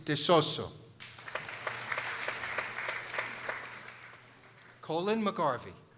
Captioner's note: people applauding